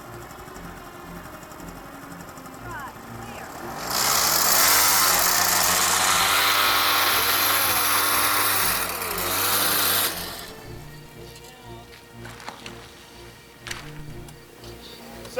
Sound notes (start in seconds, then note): 5.3 scooter revs